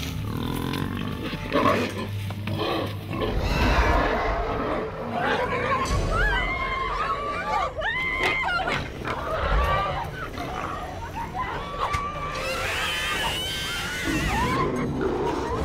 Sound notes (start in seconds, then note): 0.1 grunting; 7.1 screaming; 12.1 shrieking